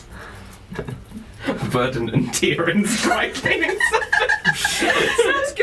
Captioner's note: laughing